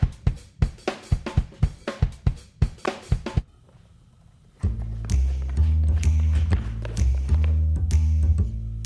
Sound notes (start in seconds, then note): 4.6 sneaky music; 6.2 foot stomps